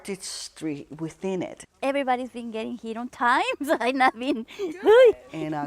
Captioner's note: laughs